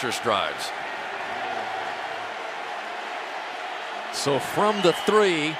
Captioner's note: cheering